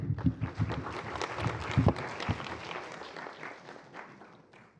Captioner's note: applause